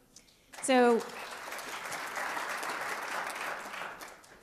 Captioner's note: applause